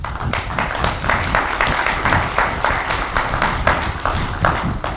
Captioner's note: audience clapping